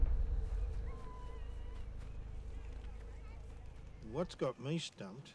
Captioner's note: group chattering